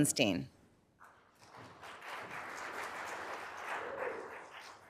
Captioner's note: applause